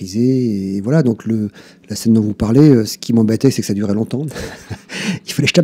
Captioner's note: laughs